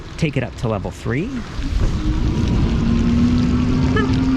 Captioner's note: motor revving